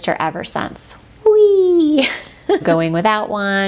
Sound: laughs

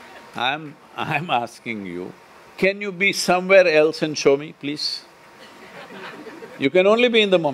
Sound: laughter

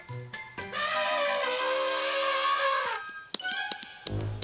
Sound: elephant trumpeting; both clapping

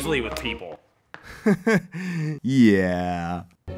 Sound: chuckles

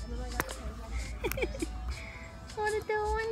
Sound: laughing

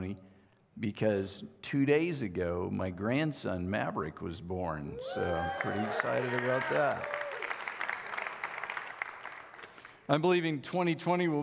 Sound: audiece clapping

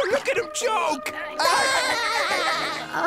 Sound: laughing

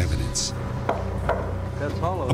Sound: knocking

